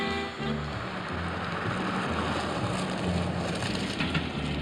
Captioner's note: suspenseful jazz music; car rumbling; train rumbling in distance